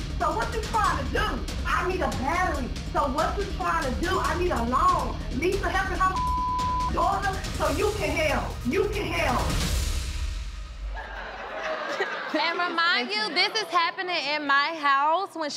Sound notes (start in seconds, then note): 10.8 audience laughter